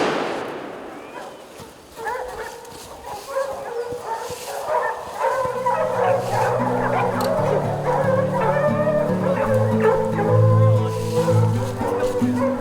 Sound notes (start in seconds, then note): 0.0 gunshot; 2.5 dogs barking